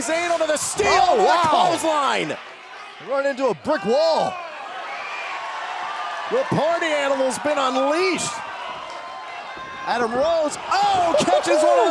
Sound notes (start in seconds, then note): 6.4 cheers & applause